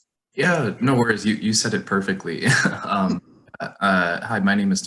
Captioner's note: chuckles